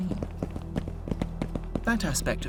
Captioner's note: footsteps